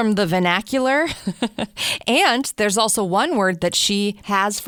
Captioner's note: laughs